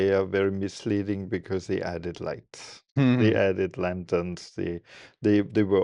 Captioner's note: laughs